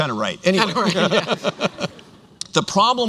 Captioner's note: laughter